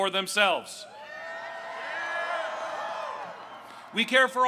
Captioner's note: crowd cheering